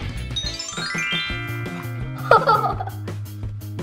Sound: twinkling; laughing

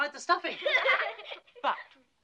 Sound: kids laugh

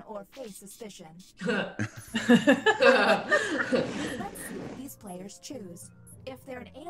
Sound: laugh

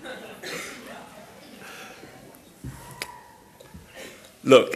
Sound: voiceover; laughing

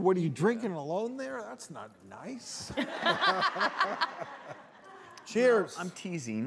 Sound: audience laughs

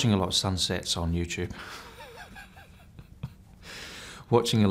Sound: laughs

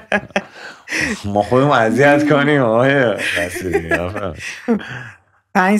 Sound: laughter

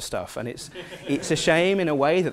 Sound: laugh

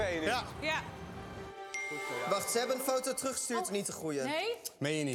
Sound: ping

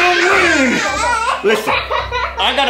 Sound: laughs

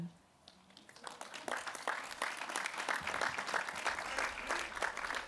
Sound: applause

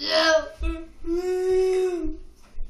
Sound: crying sound

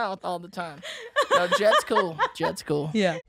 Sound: Mae laughs

